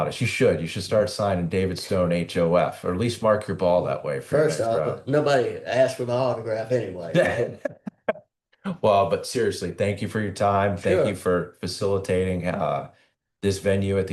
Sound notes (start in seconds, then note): 7.1 laughter